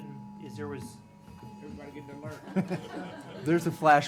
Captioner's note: phones blaring